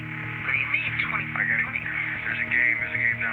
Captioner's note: on phone